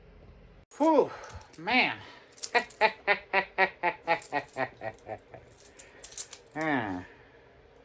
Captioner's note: laughs